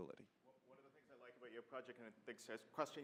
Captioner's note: voiceover